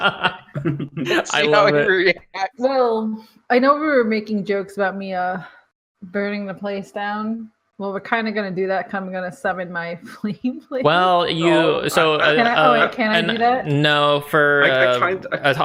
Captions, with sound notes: I know we were making jokes about me. Uh Burning the place down. Well, we're kind of gonna do that. I'm gonna summon my ... [laugh]. Well, you No, for, uh,